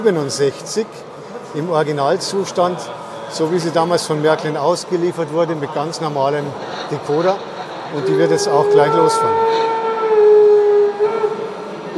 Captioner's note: whistle